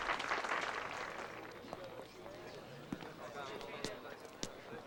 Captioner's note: people chattering